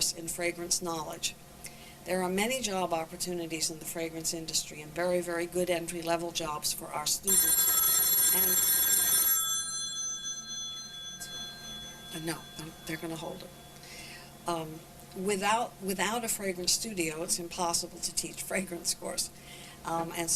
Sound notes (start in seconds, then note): 10.2 phone ringing